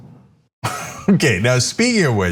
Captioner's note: laugh